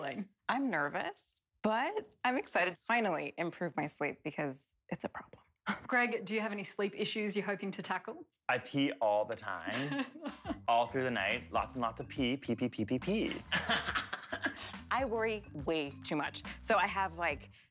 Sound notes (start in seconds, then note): 9.7 laughing; 13.2 laughing